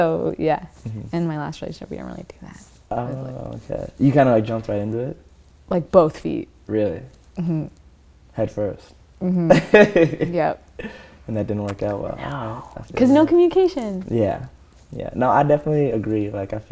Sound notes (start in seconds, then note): 9.5 laughter